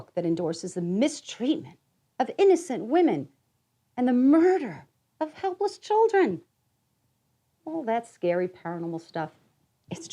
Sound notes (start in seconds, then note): none